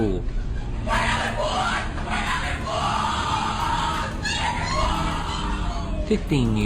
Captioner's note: violent screaming